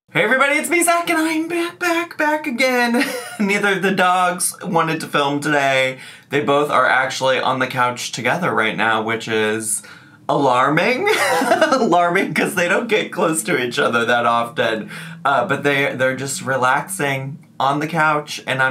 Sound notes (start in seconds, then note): 11.1 laughs